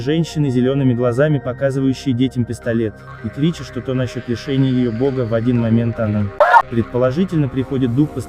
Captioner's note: screams